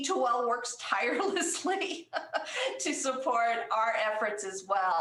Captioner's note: laughter